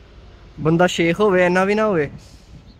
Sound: punjabi

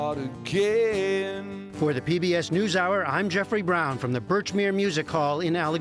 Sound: voice-over

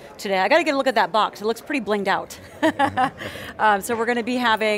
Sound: laughing

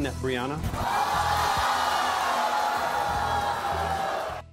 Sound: audience gasping

